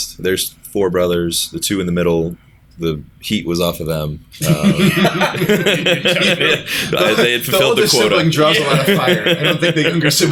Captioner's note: laughter